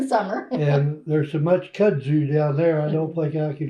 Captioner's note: laughs